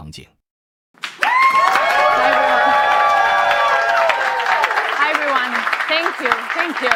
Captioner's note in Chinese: 掌声